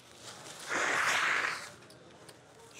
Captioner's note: blows nose